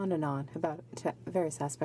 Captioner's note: speaking French